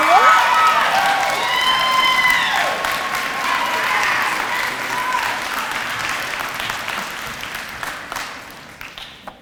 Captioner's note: audience applause